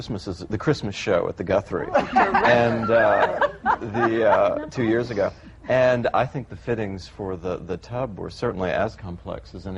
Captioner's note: laughter